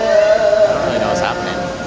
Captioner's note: crowd roars